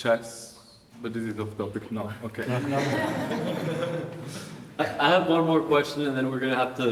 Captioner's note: audience laughing